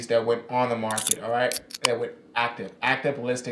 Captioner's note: can opens